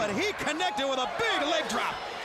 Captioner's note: crowd cheering